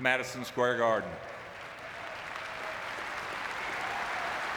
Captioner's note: audience clapping